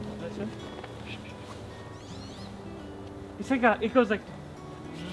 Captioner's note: bird chirpping